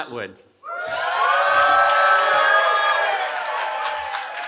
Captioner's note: cheering